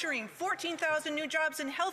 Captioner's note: applause